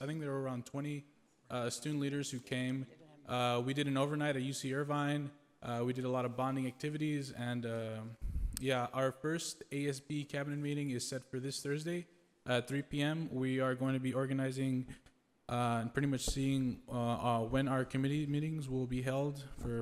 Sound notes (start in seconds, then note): none